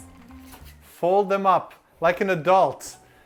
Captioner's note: scolding